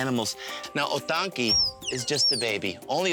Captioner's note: tapir squeaking